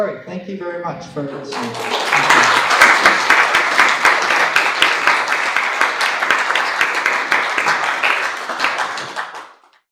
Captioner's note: applause